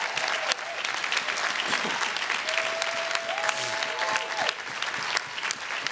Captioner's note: everyone cheering and applauding